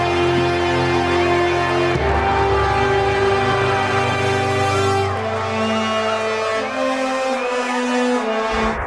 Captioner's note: cheering